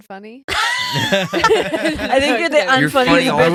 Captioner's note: laughing